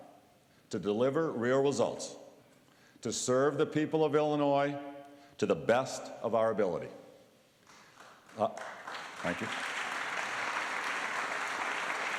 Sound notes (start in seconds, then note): 7.6 applause